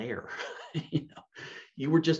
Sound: chuckles

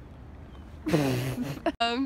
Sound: does raspberry laugh thing

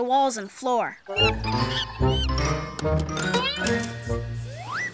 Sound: monkey screeching

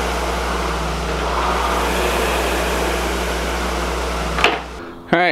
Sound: rower roars lightly

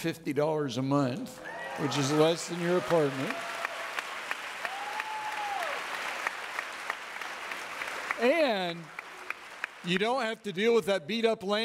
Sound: audience clapping

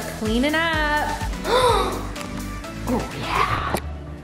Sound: gasps

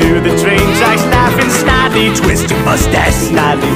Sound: evil laughter

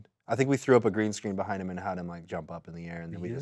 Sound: none

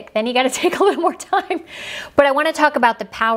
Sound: laughs

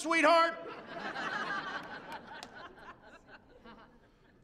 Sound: laughter

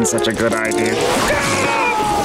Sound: screaming

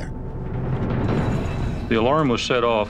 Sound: alarm ringing

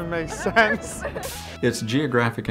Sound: laughter

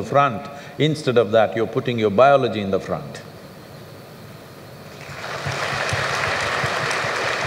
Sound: applause

